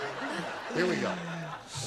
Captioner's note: laughter